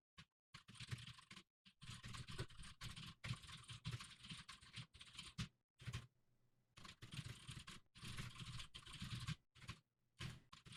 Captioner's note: typing sounds